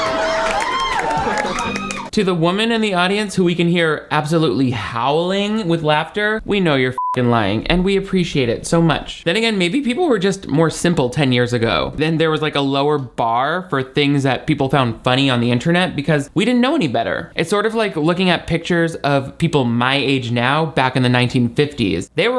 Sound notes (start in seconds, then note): 0.0 audience cheering; 6.9 beep